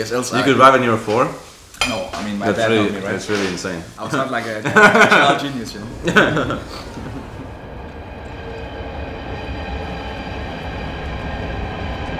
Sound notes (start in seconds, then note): 4.6 laughs